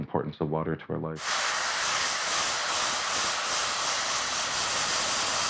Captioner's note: hair dryer noises